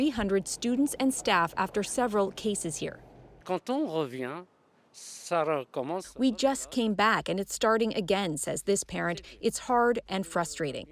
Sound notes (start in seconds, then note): 4.6 speaking French